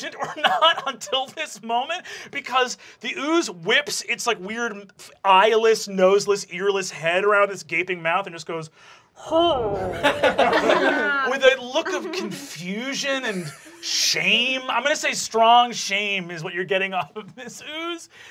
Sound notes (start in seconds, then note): 8.7 growls uncomfortably